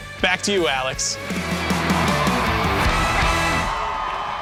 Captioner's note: crowd cheering